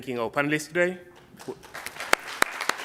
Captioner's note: applause